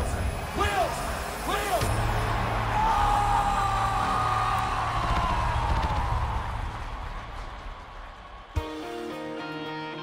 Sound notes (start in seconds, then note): 2.2 cheering